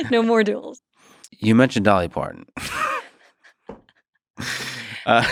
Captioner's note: laughs; laughs